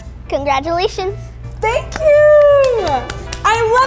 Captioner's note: clapping